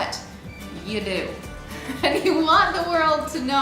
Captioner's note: laughs